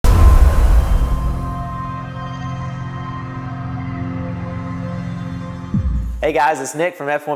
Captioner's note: sound effect